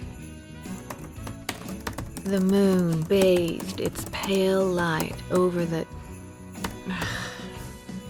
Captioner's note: typing resumes; typing